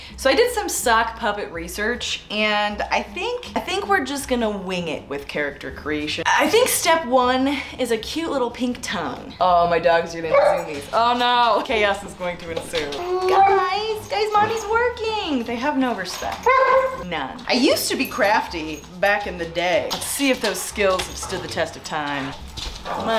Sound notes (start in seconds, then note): 10.3 dog barking; 13.3 soft dog barking; 16.4 dog barking